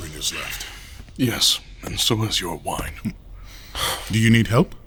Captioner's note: breathing heavily